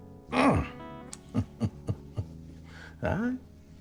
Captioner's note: chuckling